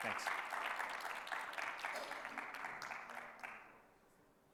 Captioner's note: audience applauds